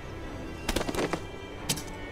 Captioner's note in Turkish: Vurma sesi